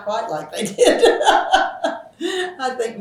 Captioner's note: laughs